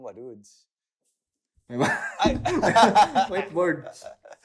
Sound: laughs

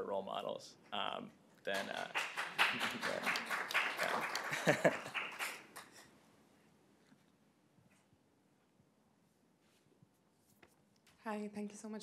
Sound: applause

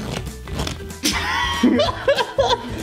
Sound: laughter

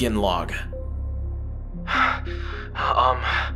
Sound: heavy breathing, a gulp

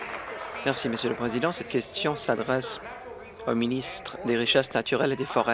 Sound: applause

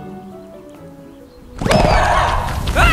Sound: Ghast screaming

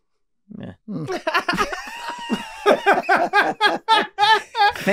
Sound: everyone laughing

